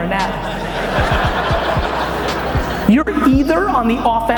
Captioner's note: audience laughs